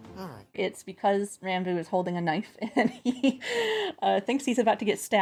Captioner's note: laughs